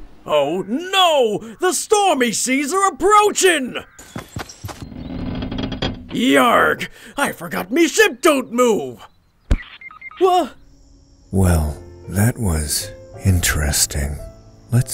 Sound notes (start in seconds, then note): 0.0 machines whirring; 9.6 machines beeping